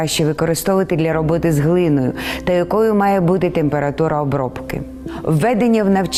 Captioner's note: speaking in foreign language